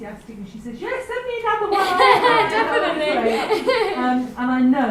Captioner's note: laughs